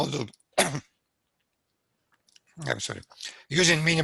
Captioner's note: coughs